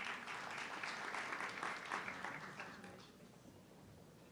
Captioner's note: audience clapping